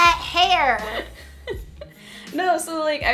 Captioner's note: laughs